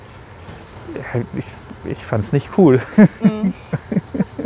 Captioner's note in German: Lachen